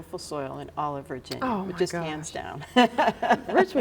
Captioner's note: laughs